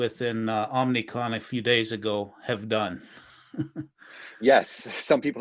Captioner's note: chuckles